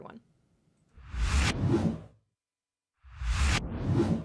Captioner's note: whooshing